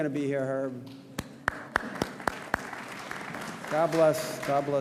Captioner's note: audience applauds